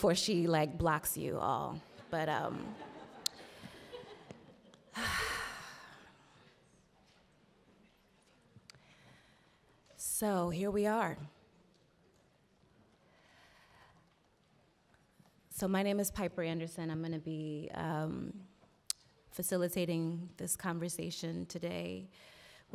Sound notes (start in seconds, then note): 4.9 Piper sighing